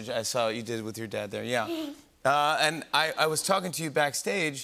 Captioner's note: chuckles